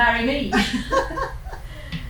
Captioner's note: laughter